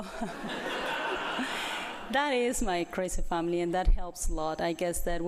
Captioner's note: laughter